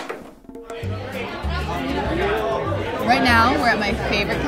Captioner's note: crowd chatter